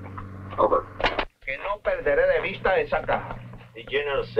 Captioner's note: General Tostada speaking in Spanish